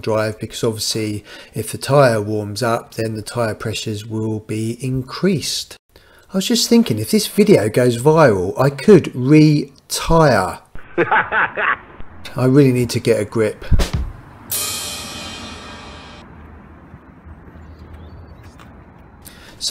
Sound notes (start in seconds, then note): 10.8 laughs; 14.4 drum Cymbal